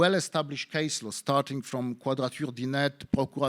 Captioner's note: speaking in foreign language